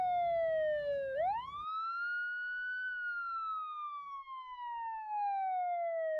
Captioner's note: siren wailing